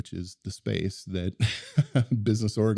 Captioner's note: laughs